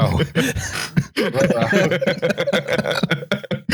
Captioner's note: laughter